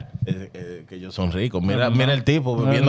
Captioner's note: speaking In Foreign Language